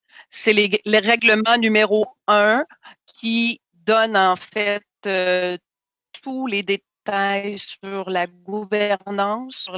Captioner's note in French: voix de l'interprète